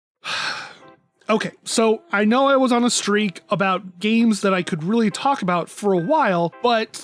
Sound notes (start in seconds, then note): 0.2 sigh